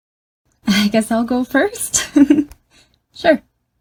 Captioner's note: laughs